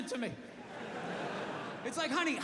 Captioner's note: audience laughing